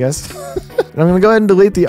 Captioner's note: chuckling